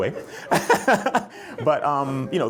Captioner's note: chuckles